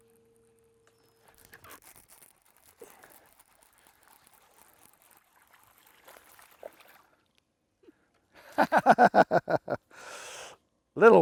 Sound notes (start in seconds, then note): 3.0 laughs